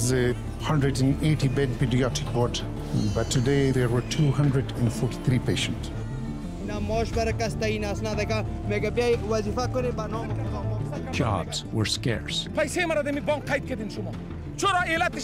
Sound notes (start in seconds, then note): 8.6 speaking Dari; 13.5 speaking Dari